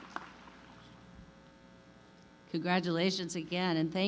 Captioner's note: applause